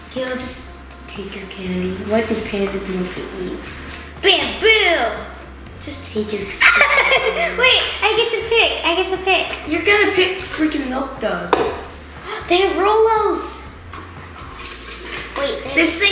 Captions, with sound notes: - Kayla, just take your candy. What do pandas mostly eat? - Bamboo! - Just take your candy. - (laughs) Wait! I get to pick. I get to pick. - You're going to pick freakin' Milk Duds. - (gasps) They have ROLO's!